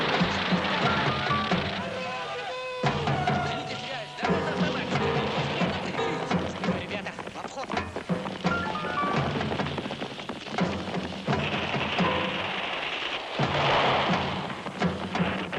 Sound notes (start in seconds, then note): 0.1 soldiers talking in foreign language; 11.4 guns firing